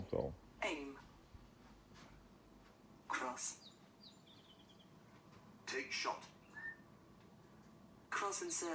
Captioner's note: english computer voice